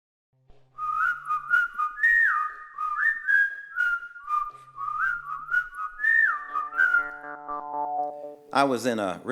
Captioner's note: whistling